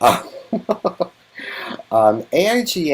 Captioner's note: laughs